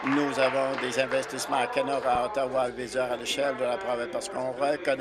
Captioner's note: applause